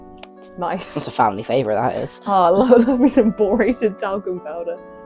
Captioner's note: laughing